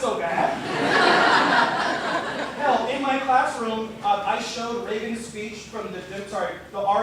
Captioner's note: laughter